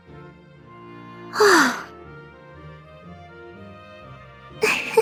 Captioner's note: sigh; laugh